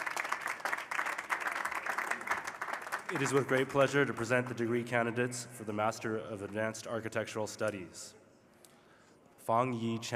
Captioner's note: cheers and applause